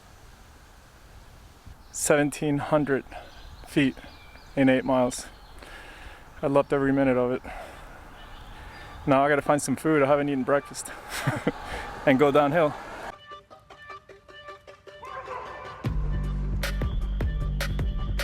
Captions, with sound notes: 1700 feet in eight miles. I loved every minute of it. Now I've got to find some food. I haven't eaten breakfast. (laughs) And go downhill. (hip hop music)